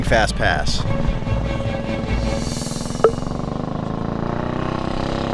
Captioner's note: motorcycle engine revving